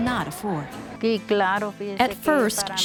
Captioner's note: speaking Spanish